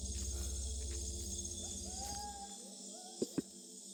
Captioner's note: animal noises in the dark